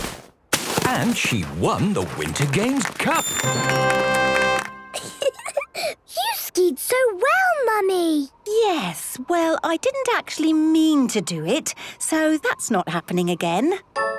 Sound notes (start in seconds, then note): 3.2 triumphant music; 4.9 giggling